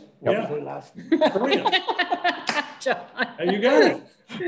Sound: laughing

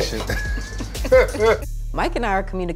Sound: both laugh

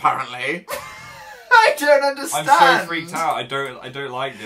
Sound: laughs

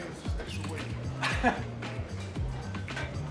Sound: laughs

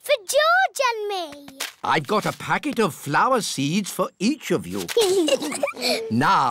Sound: both giggling

